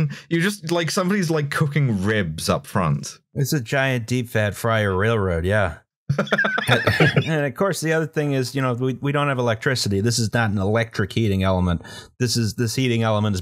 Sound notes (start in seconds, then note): 6.1 laughter